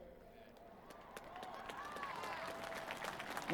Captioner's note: applause